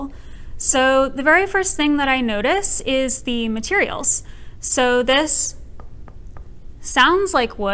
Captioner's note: light tapping